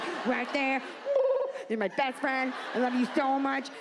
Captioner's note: audience laughs